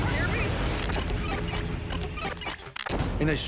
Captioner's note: tape rewinding